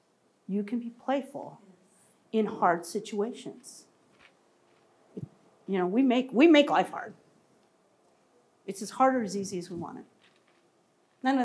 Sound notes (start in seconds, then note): none